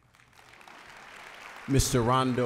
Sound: applause

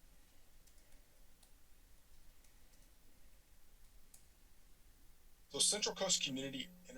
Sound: clicking sound

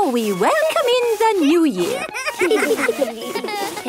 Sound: laughter

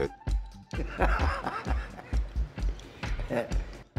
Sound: laughs

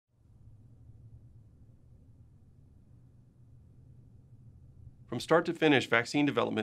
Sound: silence

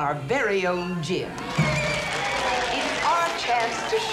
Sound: cheering

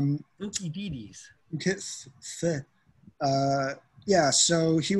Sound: mumbling

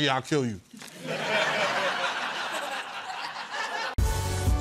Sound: laughter

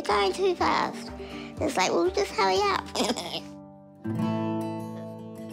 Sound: giggles

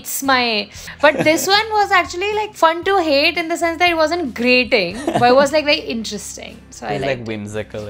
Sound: laughter

